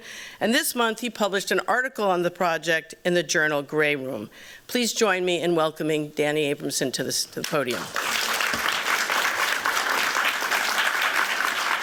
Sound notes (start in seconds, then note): 7.7 applause